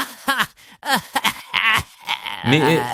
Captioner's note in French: meurt de rire, littéralement; meurt de rire